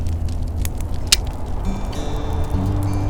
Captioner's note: click